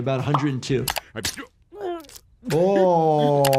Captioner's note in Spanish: El Dr. Hibbert gruñendo